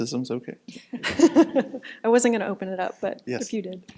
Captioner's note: chuckles